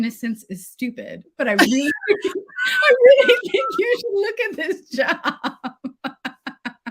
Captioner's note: laughs